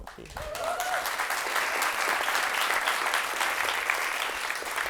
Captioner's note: audience applauds and cheers